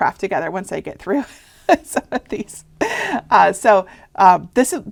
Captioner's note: laughing